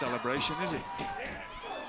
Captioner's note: crowd chatter